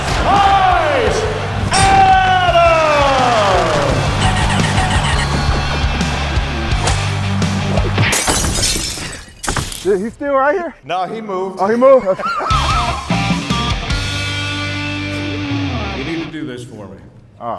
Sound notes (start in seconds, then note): 2.5 audience cheering; 2.5 intense rock music; 6.8 whip cracking; 7.6 punch thudding; 7.9 glass breaking; 11.9 laughing; 12.5 intense rock music